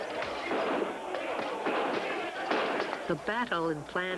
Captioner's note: gunfire